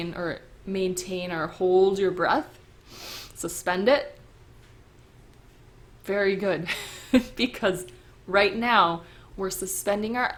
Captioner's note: chuckle